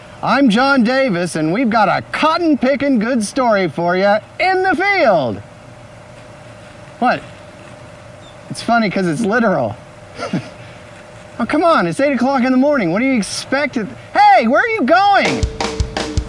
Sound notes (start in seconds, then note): 10.1 laughs